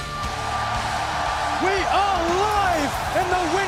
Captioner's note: crowd cheering